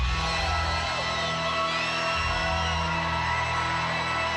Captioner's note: crowd cheers